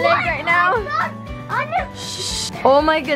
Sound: exclaims

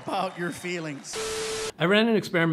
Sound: static

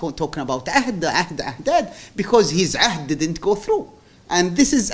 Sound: non-english

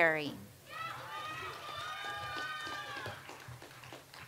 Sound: audience applauds

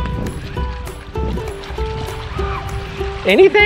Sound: water splashing

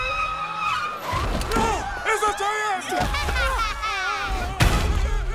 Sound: evil laugh

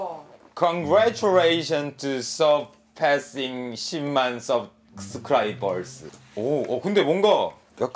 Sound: weird English

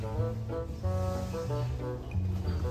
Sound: sniffing

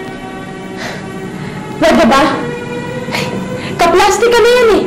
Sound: sighs

